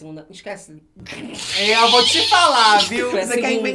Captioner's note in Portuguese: risos